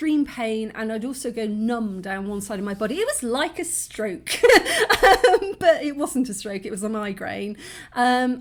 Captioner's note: laughing